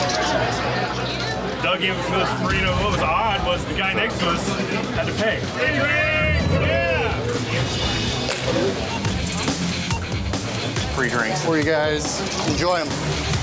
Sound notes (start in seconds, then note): 0.2 chatter; 8.7 beeping